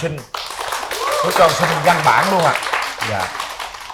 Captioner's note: applause